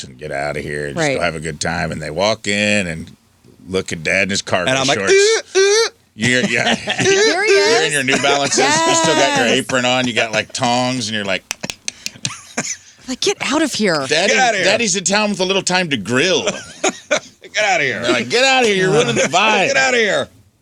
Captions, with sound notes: and get out of here and just have a good time. And they walk in and look at dad and his car. And I'm like, (imitates car horn) You're in your new balance. You're supposed to have got your apron on. You got like tongs and you're like. (clicking) Like get out of here. Daddy's in town with a little time to grill. Get out of here. Like get out of here, you're ruining the vibe. Get out of here.